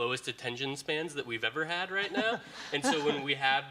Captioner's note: audience laughing